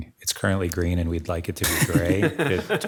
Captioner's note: people laughing